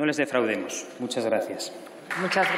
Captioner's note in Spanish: Aplausos